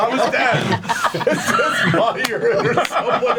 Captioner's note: all laugh; laughing